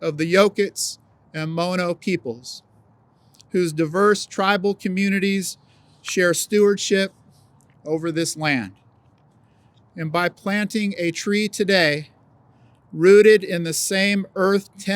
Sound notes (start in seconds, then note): none